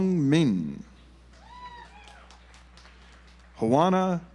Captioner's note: audience applauds